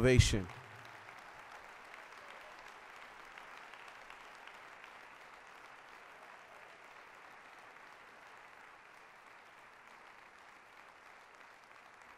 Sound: applause

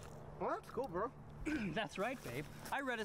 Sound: ahem

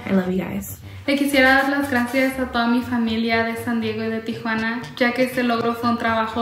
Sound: speaks in foreign language

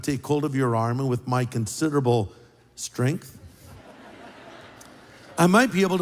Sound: laughter

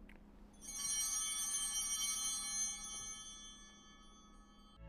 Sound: bells ringing

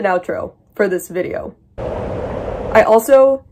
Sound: sound of wind rushing through my empty skull

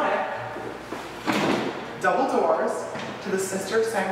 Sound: jumps on to wooden floors

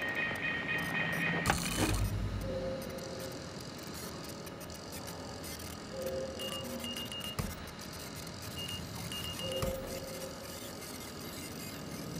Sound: beeping

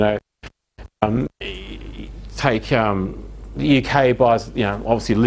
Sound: audio skips

